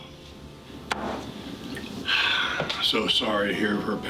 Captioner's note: glass thuds